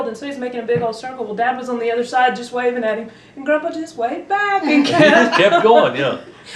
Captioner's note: laughter